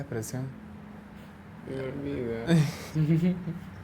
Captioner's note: laughs